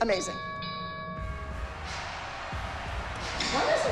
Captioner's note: boxing bell rings